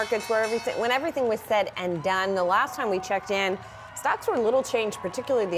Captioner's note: bell ringing